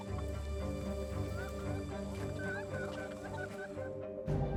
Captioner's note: chickens clucking; suspenseful music